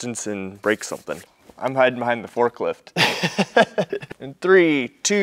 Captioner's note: laughs